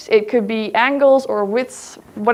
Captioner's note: none